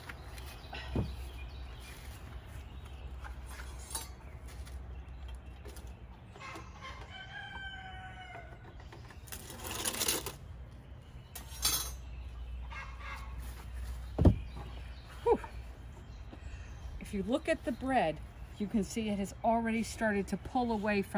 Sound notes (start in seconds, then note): 3.4 metal clangs; 6.9 rooster crows